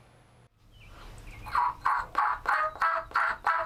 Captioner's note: chirping